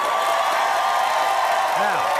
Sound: audience cheers

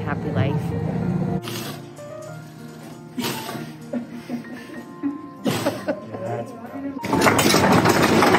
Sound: Zimba sneezes

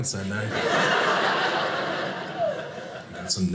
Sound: audience laughing

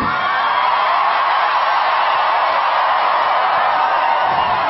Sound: audience cheers

